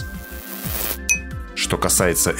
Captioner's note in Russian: звук перегоревшей лампы